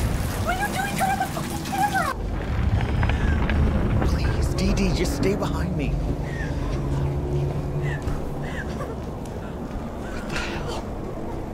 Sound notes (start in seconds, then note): 2.3 creaking/groaning; 6.6 sobs quietly